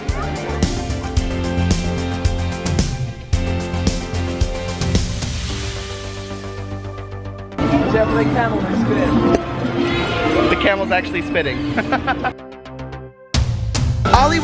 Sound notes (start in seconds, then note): 0.0 upbeat music; 8.4 male Voice; 11.5 laughs